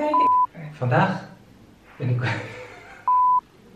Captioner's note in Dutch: Gelach